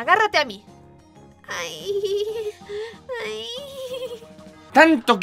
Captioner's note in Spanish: gemidos de macha